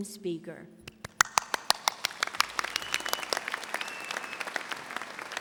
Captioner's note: audience applauding